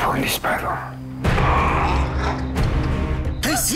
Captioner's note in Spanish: Quejidos